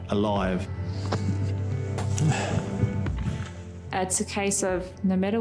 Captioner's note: runner breathing heavily